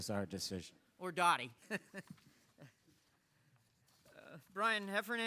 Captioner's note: laughs